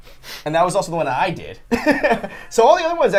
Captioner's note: laughs